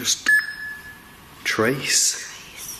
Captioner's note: beeping